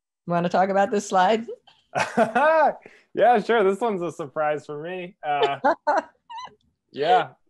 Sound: laugh

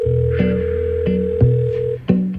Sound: phone ringing; lighthearted instrumental music

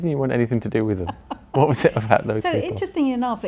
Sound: laughs

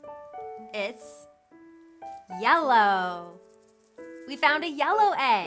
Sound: egg rattles

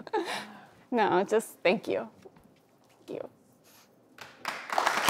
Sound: sniffles; audience applauds

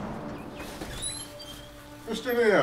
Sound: door creaking

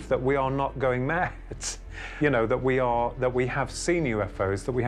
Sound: chuckles

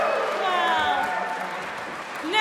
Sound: cheering

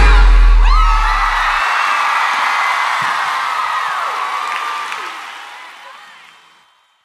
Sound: crowd cheers

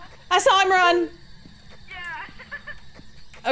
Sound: laugh

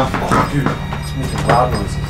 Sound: beeps

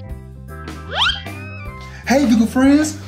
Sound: xylophone sound effect; sliding whistle sound effect

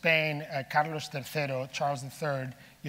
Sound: speaking in foreign language

